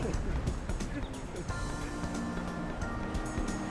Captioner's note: chuckling